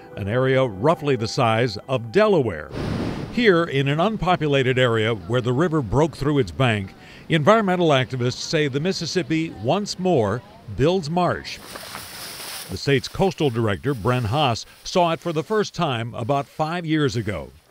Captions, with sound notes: an area roughly the size of Delaware. Here in an unpopulated area where the river broke through its bank, environmental activists say the Mississippi once more builds marsh. (grass rustling) The states coastal director, Bren Haase, saw it for the first time about five years ago.